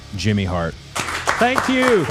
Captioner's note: everyone clapping